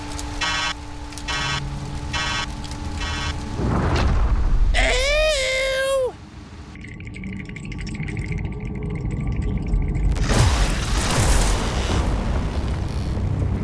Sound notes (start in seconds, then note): 0.3 roboty beeps; 2.1 roboty beeps